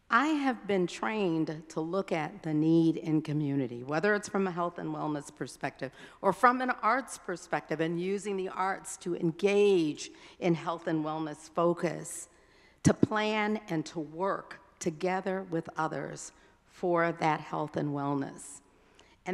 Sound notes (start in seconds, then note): none